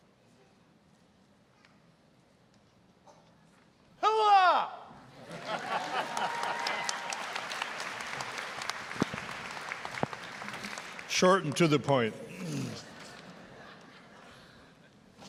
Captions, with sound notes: >> Hoo-ah! (audience laughing) (applause) >> Short and to the point. (audience laughing)